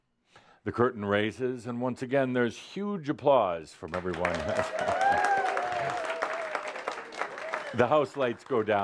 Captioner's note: audience applause